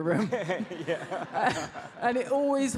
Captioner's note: audience laughs